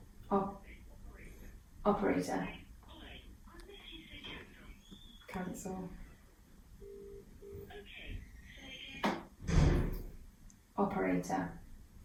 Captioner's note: on phone